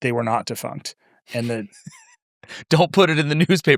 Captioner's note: laughs